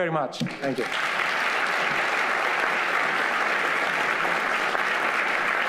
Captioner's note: audience applauding